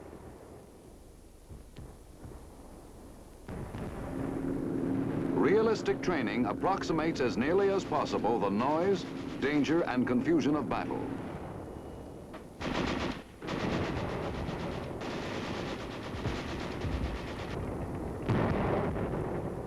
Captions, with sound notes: (booming) Realistic training approximates as nearly as possible the noise, danger and confusion of battle. (booming) (guns firing)